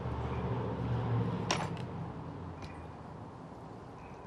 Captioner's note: gate closing